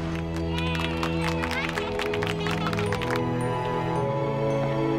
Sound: everyone claps

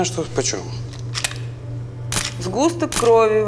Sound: camera clicking

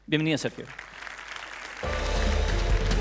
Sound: applause

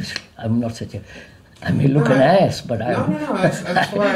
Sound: laughs

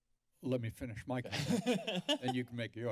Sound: laughter

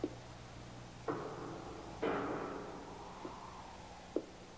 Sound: metal clangs

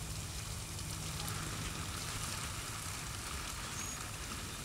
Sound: none

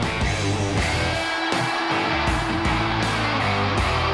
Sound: cheering

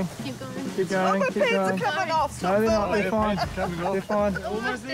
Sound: laughs

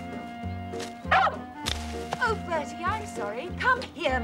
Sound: dog barks

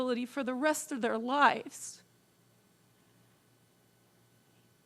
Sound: voice wavering

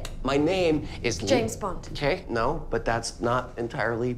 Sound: normal voice

